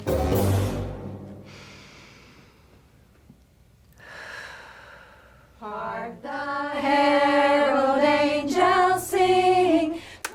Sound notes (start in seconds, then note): 0.0 quirky music; 1.4 inhales, then exhales